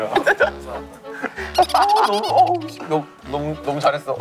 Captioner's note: laughing